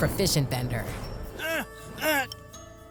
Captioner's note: grunting